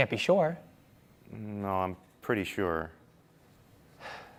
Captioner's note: sighs